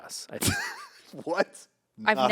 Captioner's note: laughs